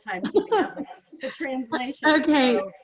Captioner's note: laughs